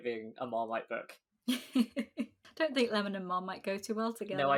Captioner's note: laughs